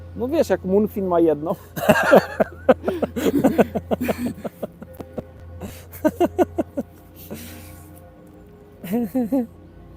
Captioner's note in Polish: śmiech